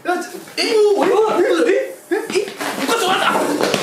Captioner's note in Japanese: 一同動揺の声